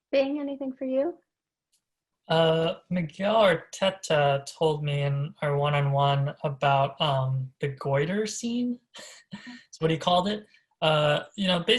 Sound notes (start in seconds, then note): 8.9 laughs